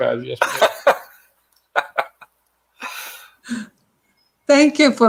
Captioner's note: laughter